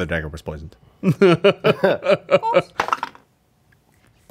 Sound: laughs; dice clatter

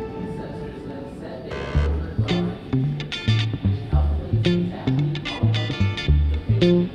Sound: people chattering; funky upbeat music

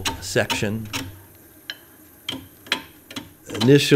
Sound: wood scraping

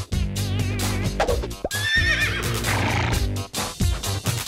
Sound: horse neighs

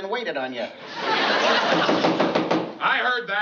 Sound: knock on door

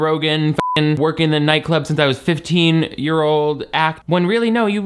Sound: beep

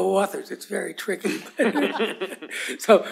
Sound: laughter

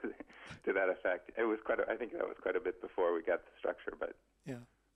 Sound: laughs

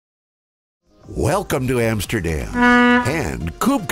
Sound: boat horn blows

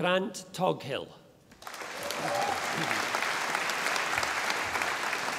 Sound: audience applauding

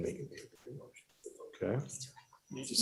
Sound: whispering

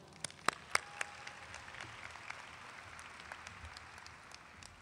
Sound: audience applauding

